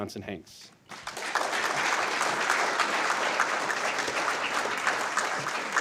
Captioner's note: applause